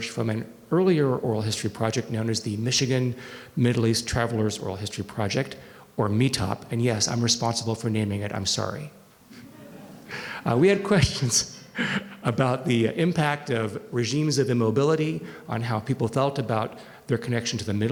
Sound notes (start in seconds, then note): 9.4 audience laughing; 11.7 chuckles